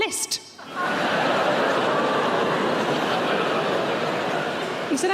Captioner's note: audience laughing